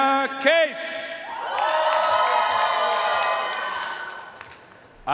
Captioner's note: audience cheering and applauding